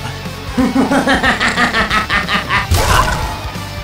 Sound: evil laugh

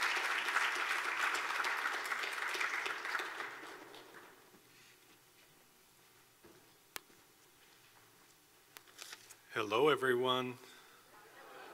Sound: hello response from the audience

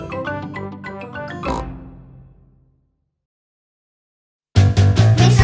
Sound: snort

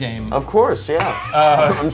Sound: laughs

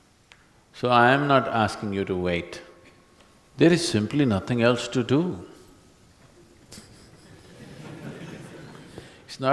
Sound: few Laugh

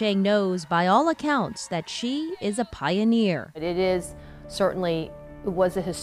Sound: applause

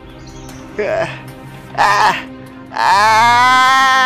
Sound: groaning

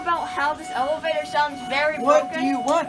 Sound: elevator sounding alarms

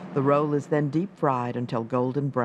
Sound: voiceover

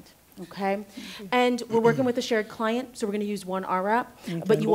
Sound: clears throat

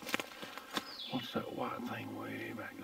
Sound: leaves crunching; birds chirping

